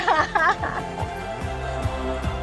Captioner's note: laughing; gentle music